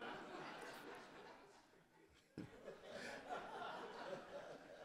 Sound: audience laughing

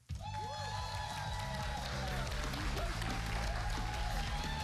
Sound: cheers and applause

